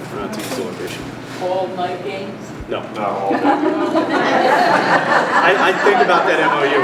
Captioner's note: laughter